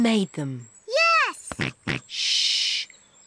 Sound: snorts

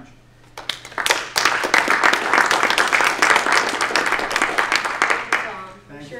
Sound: applause

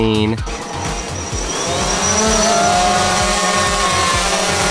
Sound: drone blades whirring

